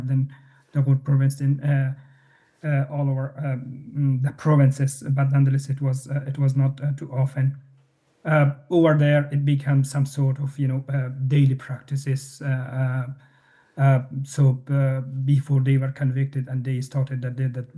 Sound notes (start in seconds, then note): none